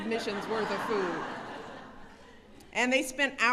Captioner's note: laughter